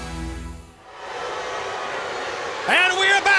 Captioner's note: crowd jeering